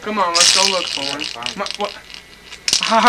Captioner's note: rattle sounds